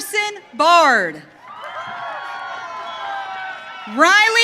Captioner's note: audience cheering